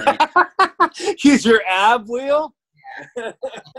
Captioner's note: laughs; laughs